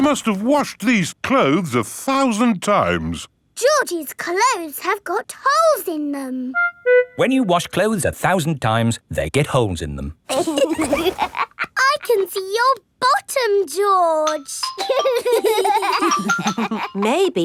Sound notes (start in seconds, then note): 10.3 laughs; 14.7 giggling